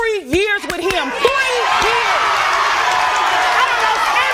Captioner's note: audience cheering